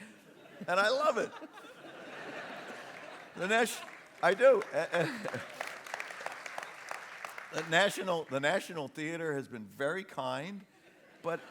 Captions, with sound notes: (LAUGHTER) And I love it! The National... (APPLAUSE) The National Theatre has been very kind, but...